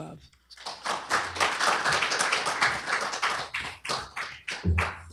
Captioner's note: applause